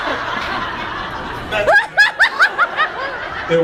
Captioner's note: laughs